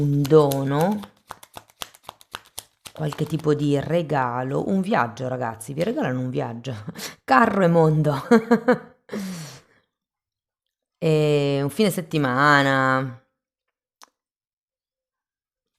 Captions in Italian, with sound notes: un dono, qualche tipo di regalo, un viaggio, ragazzi, vi regalano un viaggio, carro e mondo [risate] e un fine settimana.